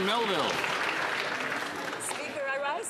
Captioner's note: some Applause